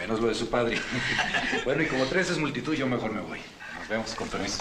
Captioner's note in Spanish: Risas